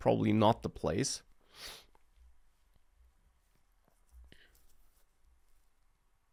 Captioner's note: sniffs